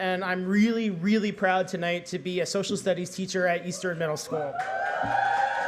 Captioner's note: cheering